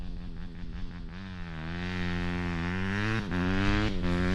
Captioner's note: engine revving